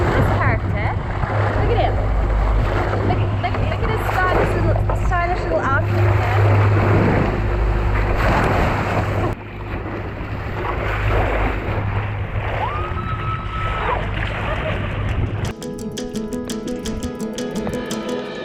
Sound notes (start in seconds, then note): 12.6 screams; 15.4 relaxed music